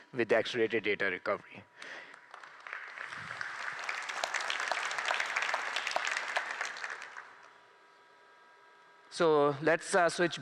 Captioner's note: applause